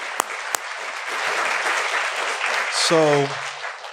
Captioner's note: applause